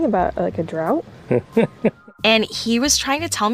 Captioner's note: laughing